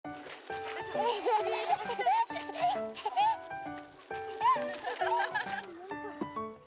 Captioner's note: laughter